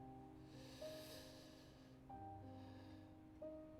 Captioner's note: suspiro